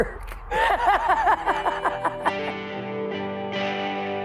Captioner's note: laughter